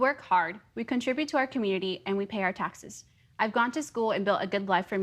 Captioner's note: speaking in native tongue